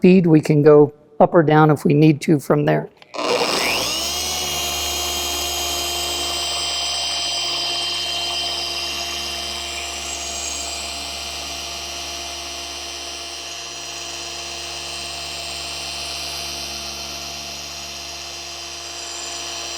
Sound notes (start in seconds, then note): 3.4 machine humming